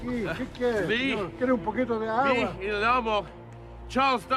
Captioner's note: speaking spanish